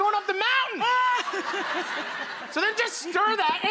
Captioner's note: audience and Rachael laughing